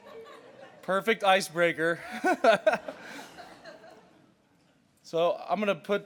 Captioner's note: laughter; laughter